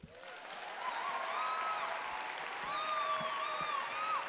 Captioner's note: applause